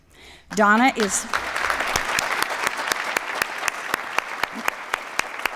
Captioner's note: applause